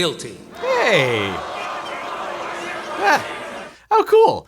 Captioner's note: audience shouting angrily